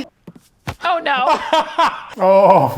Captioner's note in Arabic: يضحك إيفان